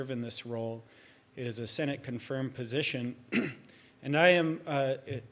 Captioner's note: clears throat